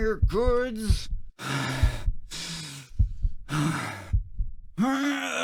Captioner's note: heartbeats; heavy breathing; heartbeats